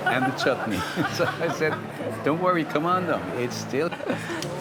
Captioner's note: laughs